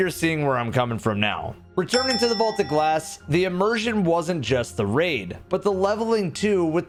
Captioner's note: ding